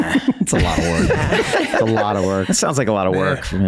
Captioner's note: all laugh